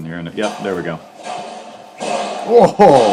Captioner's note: locker banging